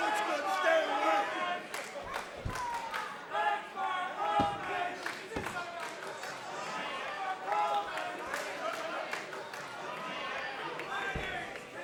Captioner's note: fans chanting